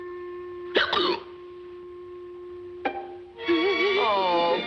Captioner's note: Rudolph hiccups